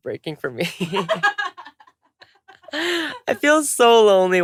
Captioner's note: laughter